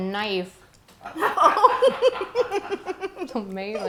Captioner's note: laughing